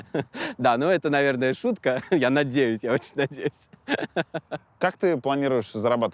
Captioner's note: laughs; laughs